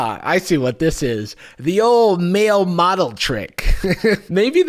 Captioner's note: chuckles